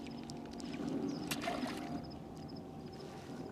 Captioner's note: splash